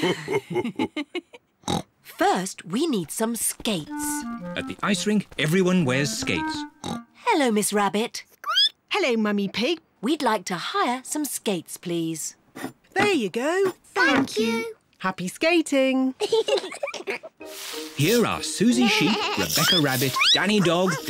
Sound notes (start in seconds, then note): 0.0 laughs and snorts; 6.5 snorts; 8.2 squeaks; 16.2 giggles